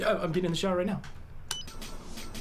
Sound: beep; party music plays

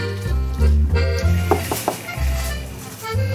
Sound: knock

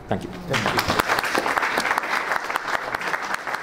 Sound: clapping

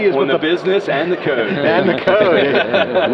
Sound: laughter

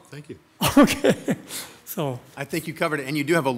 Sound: laughs

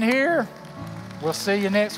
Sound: applause

